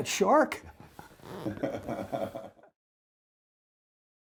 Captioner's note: laughter